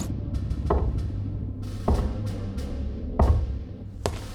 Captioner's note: thudding